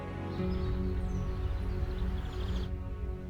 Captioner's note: birds chirping